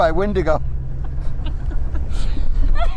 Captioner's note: laughing